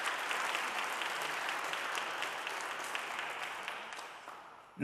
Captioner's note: audience applauding